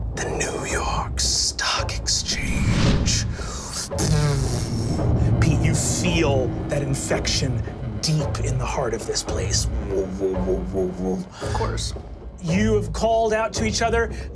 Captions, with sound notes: the New York Stock Exchange. (mimics reverberations) Pete, you feel that infection deep in the heart of this place. (mimics energy humming) - Of course. - You have called out to each other.